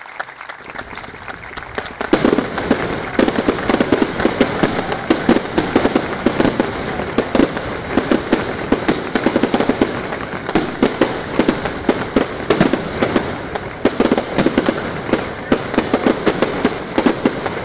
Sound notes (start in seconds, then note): 1.2 fireworks